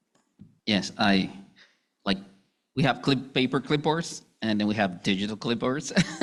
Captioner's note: laughing